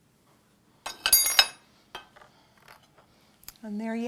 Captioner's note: spoon clangs